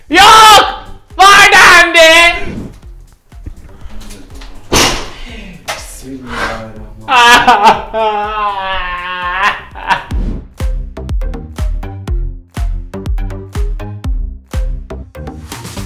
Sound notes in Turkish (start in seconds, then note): 7.1 ağlar